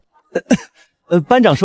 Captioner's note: cough